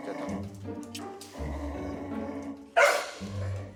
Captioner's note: growl